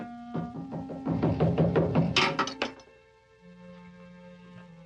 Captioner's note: door knocking